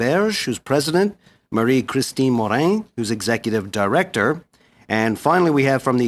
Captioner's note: speaking French